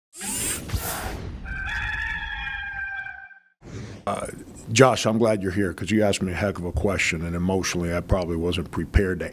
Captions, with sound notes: (logo whooshing) (rooster crowing) - Josh, I'm glad you're here, 'cause you asked me a heck of a question. And emotionally, I probably wasn't prepared